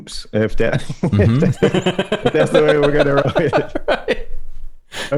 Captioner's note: laughter